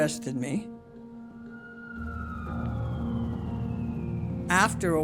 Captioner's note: siren